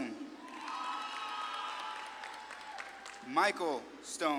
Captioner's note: audience claps and cheers